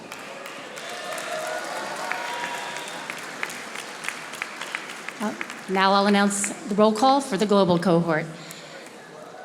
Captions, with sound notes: (audience applauding) - Now I'll announce the roll call for the Global cohort.